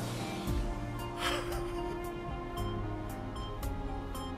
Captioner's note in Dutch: snikkend